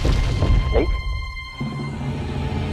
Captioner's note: gulps